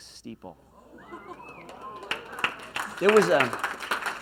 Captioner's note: cheers